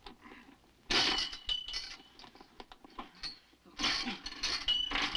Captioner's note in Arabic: سلسلة قعقعة